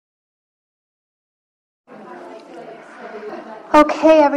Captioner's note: people chatting